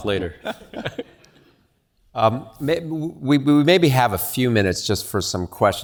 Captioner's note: laugh